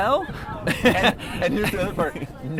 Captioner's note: laughs